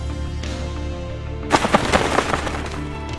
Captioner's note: wing flapping noise